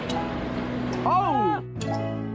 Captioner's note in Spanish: grita